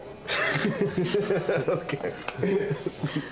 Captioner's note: laughing